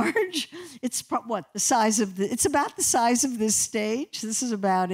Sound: laughter

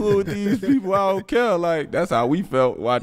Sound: Metta laughs

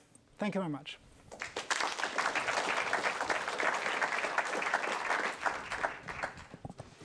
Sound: applause

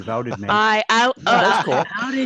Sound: laughs

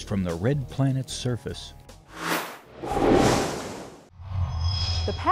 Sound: sound Effects

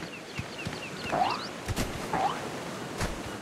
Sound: jump sound

